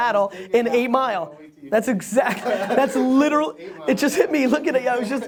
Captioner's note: laughs